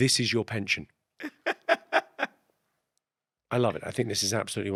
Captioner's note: Ahir laughs